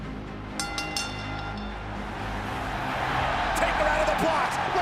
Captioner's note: dramatic music; bell rings